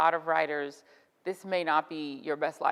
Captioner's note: none